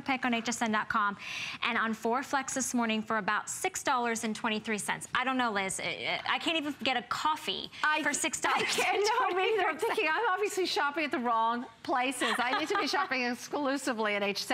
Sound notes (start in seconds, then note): 12.1 laughter